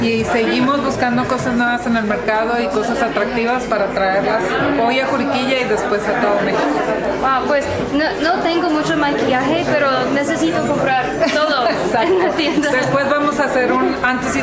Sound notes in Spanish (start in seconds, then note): 11.2 risas